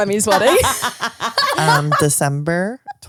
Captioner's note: laughs